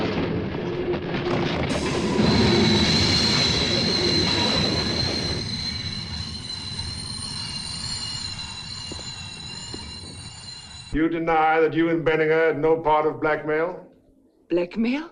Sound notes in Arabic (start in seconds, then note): 2.8 صرير الفرامل